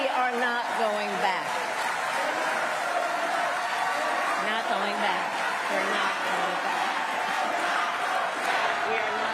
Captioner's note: applause